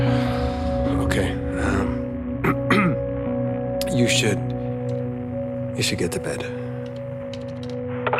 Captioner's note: clears throat